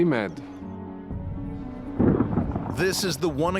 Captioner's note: thunder rumbling